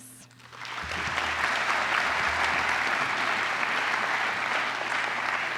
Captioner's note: applause